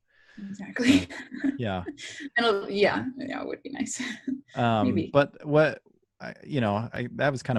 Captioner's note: laughs